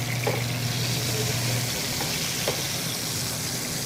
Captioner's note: sizzling